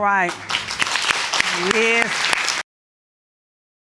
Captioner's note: applause